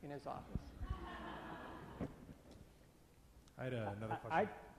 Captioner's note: audience laughs